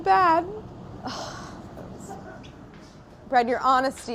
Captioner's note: sighs